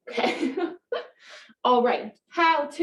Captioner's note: laughs